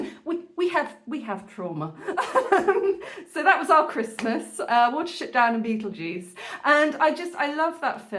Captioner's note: laughing